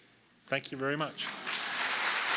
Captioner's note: applause